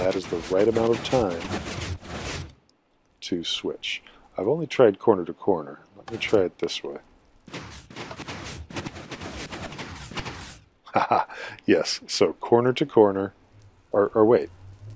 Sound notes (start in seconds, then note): 0.0 click, pistons; 2.3 pistons slow and stop; 6.9 click; 7.5 pistons fire and stop; 10.9 pleased laugh